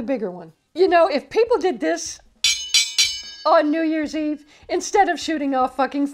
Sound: ting ting ting

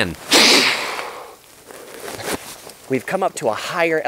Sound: blows

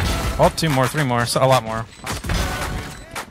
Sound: guns firing; gun shots

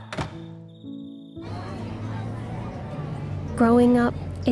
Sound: door shuts; bus engine whirring

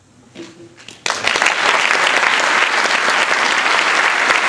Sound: applause

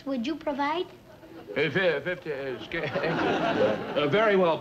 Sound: Brad mumbles

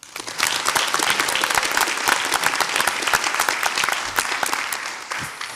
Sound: audience applauds

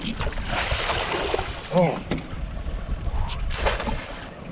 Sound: fish splashing

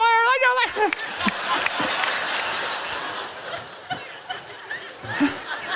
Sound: laughter

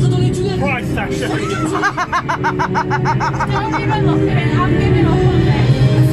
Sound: laughs

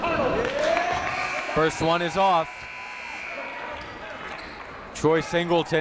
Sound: buzzer goes off

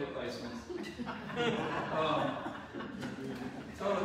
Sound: audience laughs

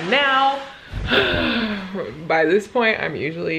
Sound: sighs

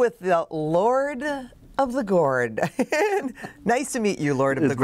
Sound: laughs

